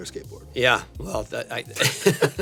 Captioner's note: laughs